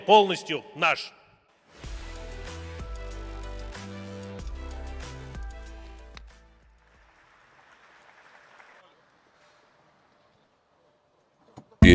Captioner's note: applause